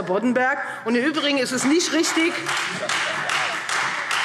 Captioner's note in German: Beifall Freie Demokraten und vereinzelt SPD